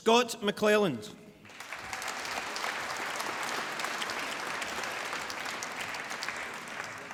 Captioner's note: applause